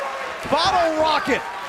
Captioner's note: cheers & applause